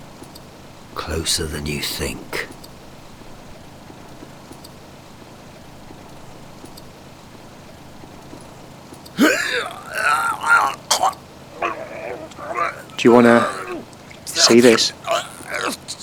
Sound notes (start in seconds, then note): 9.1 gags